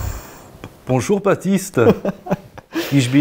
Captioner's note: German accent